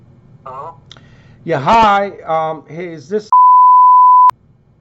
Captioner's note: beep